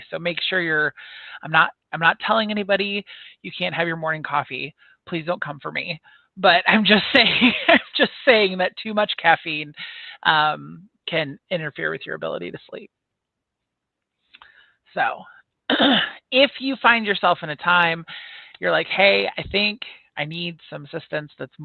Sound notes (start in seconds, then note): 7.1 giggles; 15.7 clears throat